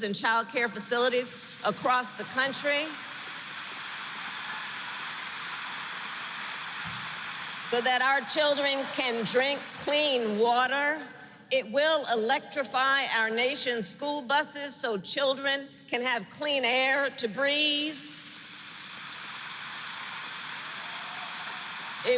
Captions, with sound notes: and childcare facilities across the country -- (applause) -- so that our children can drink clean water. It will electrify our nation's school buses so children can have clean air to breathe. (Applause.)